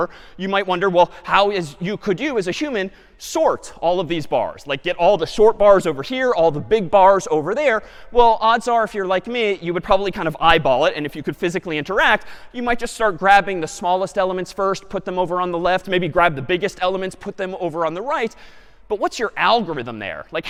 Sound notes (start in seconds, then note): none